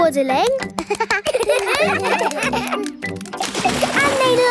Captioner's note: children laugh